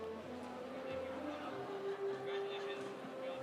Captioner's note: audience chattering